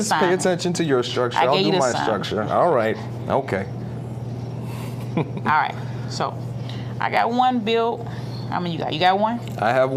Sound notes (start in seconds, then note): 4.7 chuckling